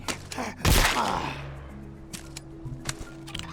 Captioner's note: gunshot